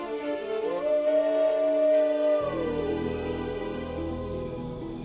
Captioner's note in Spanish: lobo aullando; música suave